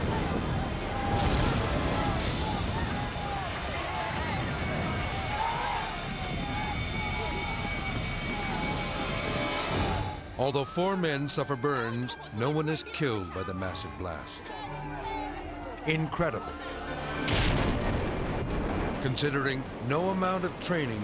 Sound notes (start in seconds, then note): 0.0 explosion pounds; 0.0 firefighters shouting; 1.0 explosion pounds; 1.6 intense dramatic music; 17.2 explosion pounds